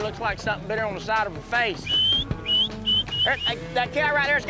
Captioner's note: whistling